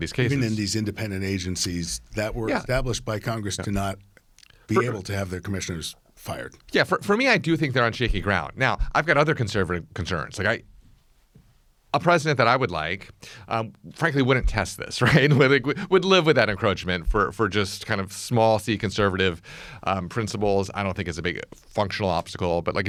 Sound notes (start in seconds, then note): 15.5 laughs